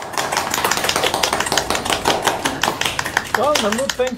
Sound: audience clapping

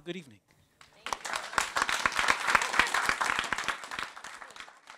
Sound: audience applauds

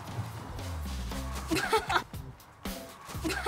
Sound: haha

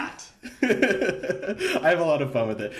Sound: laughing

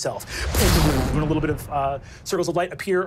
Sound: air whooshing

